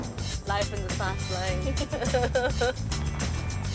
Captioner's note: whistles